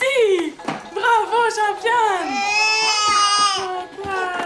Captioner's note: speaking French